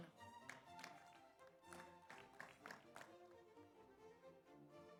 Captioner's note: audience applauds